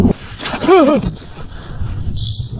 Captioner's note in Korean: 신음